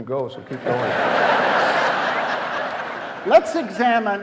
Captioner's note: audience laughing